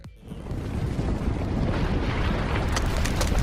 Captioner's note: quaking